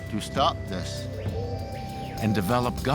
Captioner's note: birds chirping